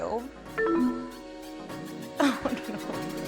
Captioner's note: descending chiming tone